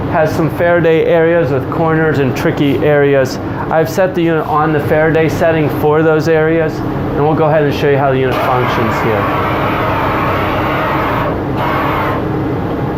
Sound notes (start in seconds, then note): 8.3 spraying